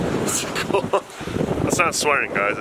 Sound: laughing

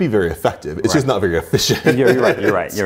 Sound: laughs

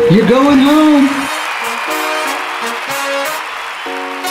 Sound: crowd cheers

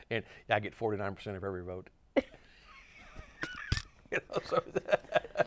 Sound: laughs

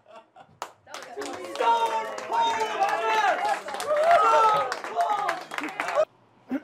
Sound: applause, cheers

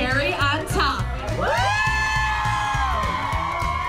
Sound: cheering

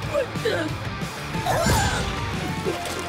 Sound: grunting

